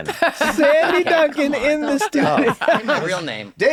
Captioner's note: laughing